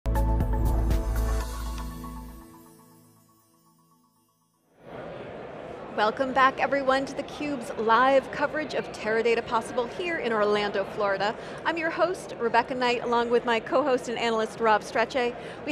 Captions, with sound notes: (bright music) (audience chattering) >> Welcome back, everyone, to theCUBE's live coverage of Teradata Possible here in Orlando, Florida. I'm your host, Rebecca Knight, along with my co-host and analyst, Rob Strechay.